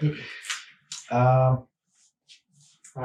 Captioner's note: laughing